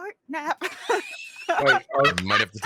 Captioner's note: laughing